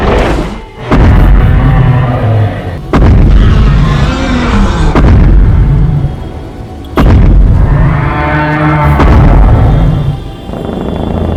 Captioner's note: Godzilla growling and stomping